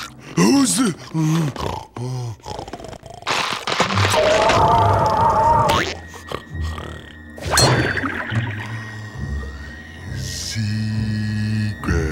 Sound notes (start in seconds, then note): 2.3 snoring; 6.0 snoring